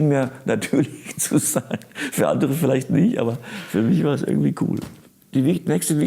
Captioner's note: laughing